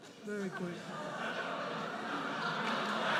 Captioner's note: audience laughs; audience cheers